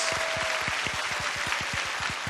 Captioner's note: cheering